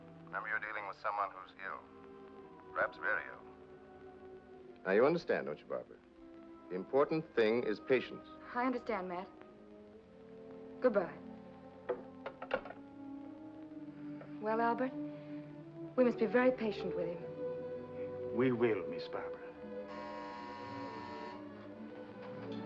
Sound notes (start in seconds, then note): 12.2 phone sets into receiver; 19.9 door bell buzzes; 22.4 ominous sentimental music